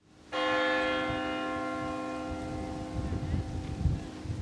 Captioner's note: bell tolls